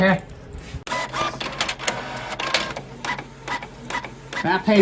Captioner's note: document printing